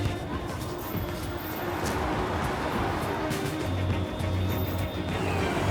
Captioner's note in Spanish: Algarabía de la calle